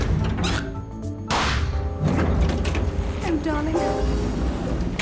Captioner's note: balloon squeaking; balloon popping